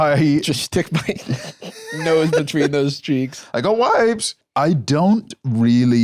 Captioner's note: laughs